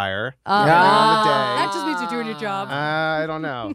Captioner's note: they exclaim